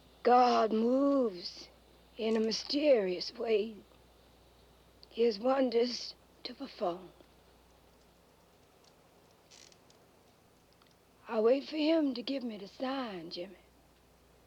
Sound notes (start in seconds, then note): none